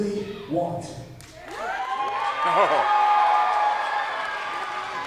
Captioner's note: crowd cheering